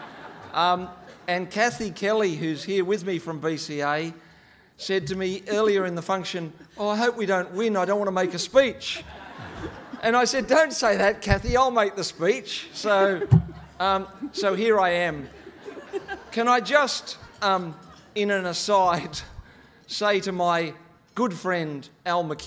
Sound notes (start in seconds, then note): 8.8 laughing; 16.7 laughing